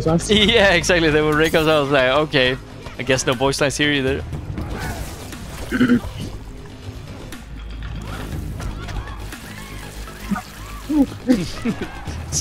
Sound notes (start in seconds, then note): 5.7 clears throat